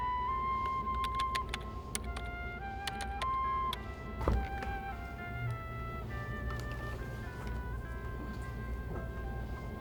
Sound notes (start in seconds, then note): 0.5 keys tapping; 4.5 soft music